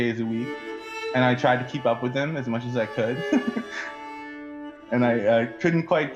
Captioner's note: chuckle